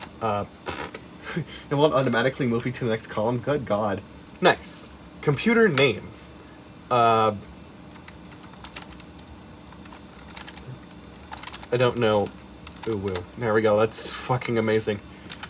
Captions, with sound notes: Uhh... Pfft. (giggles) It won't automatically move you to the next column? Good God. Next! Computer name. Uhh... (cheap yet satisfying soft sounding rubber dome keyboard noises) I don't know! UwU~ There we go, that's fucking amazing.